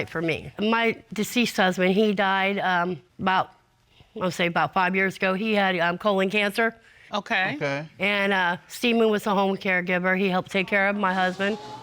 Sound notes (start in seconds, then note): none